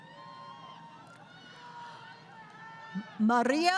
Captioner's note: crowd Cheering